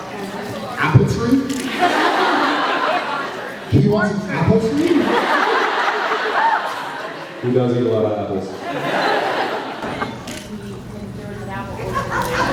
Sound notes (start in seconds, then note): 1.4 laughs; 8.5 laughs